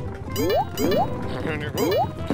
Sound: electronic beeping

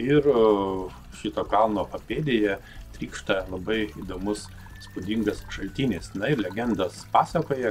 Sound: pouring

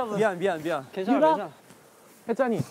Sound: sad steps

